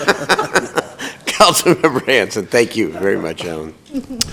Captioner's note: laughter